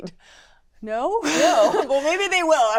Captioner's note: laughter